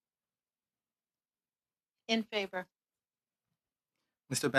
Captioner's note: speaking French